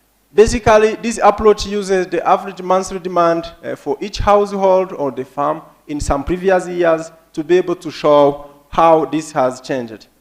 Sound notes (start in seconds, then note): none